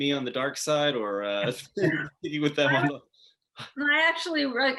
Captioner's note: laughing